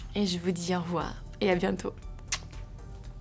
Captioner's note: speaking in foreign language; lips smacking